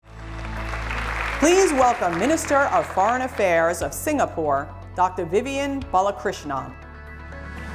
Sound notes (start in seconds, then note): 0.0 audience applauding